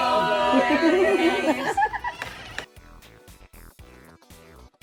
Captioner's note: laughing; upbeat music